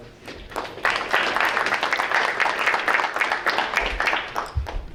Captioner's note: audience applauding